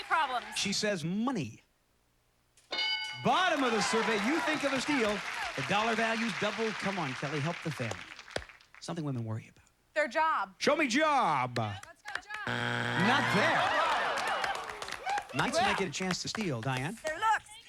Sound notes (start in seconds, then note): 12.4 buzzer